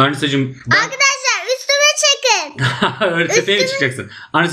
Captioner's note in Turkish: kahkaha